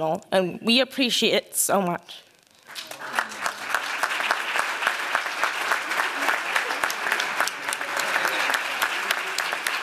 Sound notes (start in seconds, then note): 2.6 applause